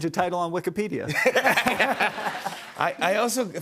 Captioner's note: laughter